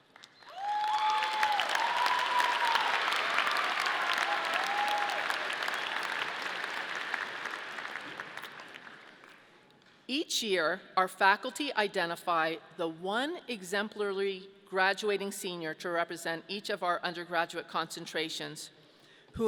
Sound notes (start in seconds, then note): 0.4 audience cheering